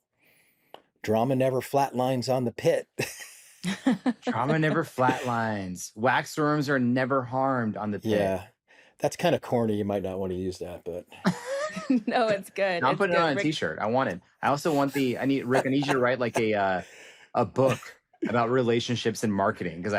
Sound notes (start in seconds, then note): 3.0 laughter; 11.2 laughs